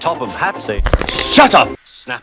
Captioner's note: necc cracc